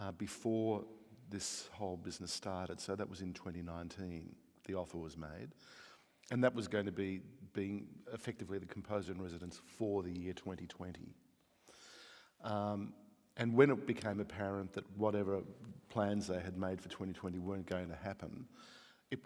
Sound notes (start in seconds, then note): none